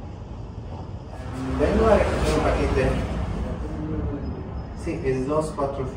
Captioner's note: in Spanish